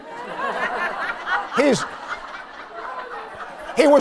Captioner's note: laughter